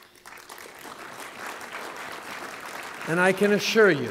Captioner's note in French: Applaudissements